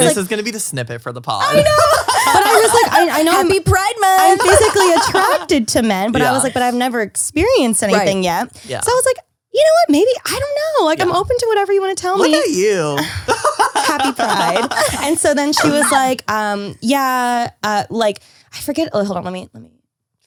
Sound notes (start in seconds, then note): 1.4 laughs; 12.2 laugh